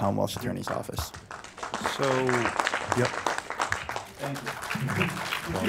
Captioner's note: audience applauding